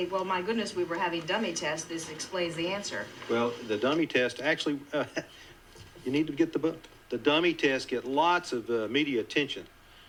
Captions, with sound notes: "Well, my goodness, we were having dummy tests. This explains the answer." - Well, the dummy test, actually, (laughs) you need to get the book. The dummy tests get lots of media attention